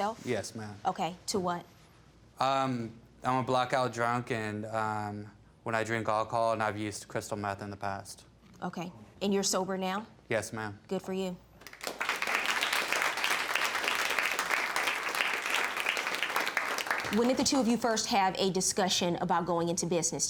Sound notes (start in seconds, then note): 11.6 audience clapping